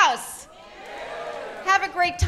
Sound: audience cheers

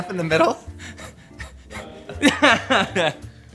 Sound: laughs

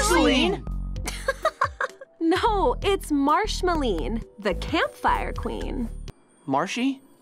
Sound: laughs

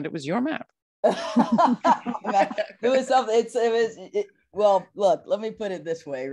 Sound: laughs

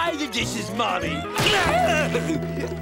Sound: grunting

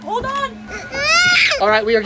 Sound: shrieks

